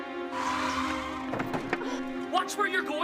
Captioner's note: tense dramatic music; car screeches